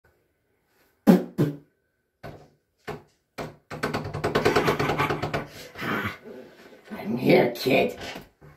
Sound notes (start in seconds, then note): 1.1 spit; 4.3 cackling